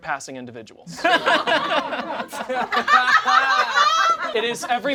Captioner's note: all laugh